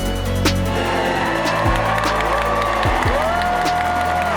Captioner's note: crowd cheers